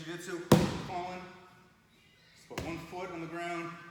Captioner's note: hands slam floor